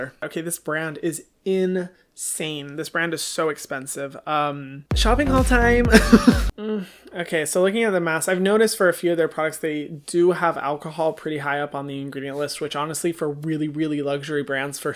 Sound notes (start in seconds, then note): 5.9 laughs